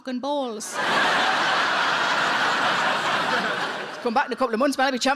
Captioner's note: audience laughing